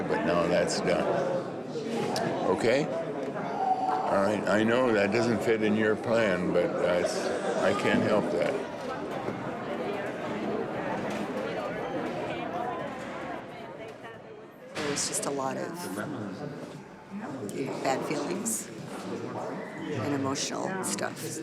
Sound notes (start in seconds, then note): 9.3 background talking